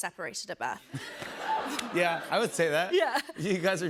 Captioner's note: laughter